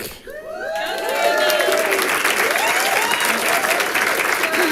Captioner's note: audience applauding